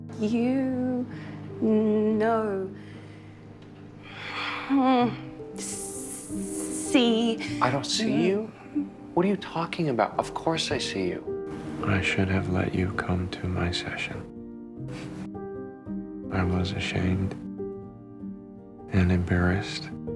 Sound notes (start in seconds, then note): 6.0 stuttering